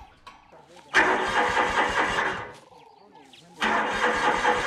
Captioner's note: tractor stalling